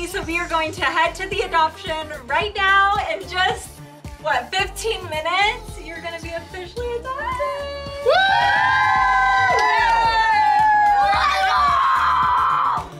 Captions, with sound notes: So we gonna head to the adoption right now, in just, what? 15 minutes. You're gonna be officially adopted. (group cheers) - Let's go!